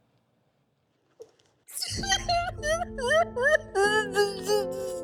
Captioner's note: sobbing